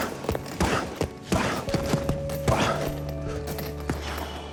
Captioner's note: blows land rapidly, loudly